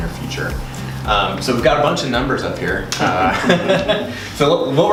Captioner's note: laughter